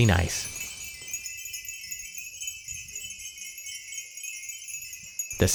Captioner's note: sound of wind chimes